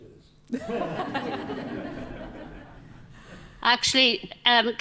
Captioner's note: group laughing